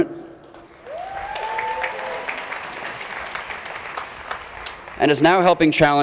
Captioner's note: crowd cheering